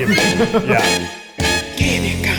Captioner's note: horns blare